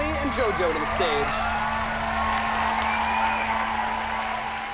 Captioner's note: applause